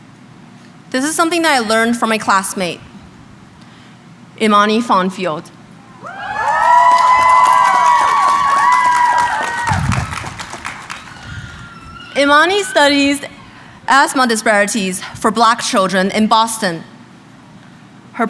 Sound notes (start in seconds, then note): 5.9 crowd cheering